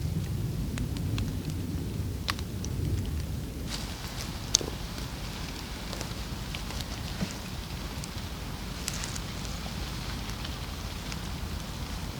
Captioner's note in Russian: фыркает